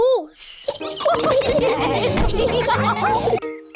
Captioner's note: all giggle